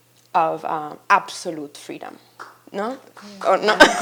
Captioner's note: laughs